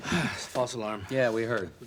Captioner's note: sighs